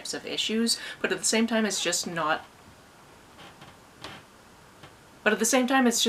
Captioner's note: floor squeaking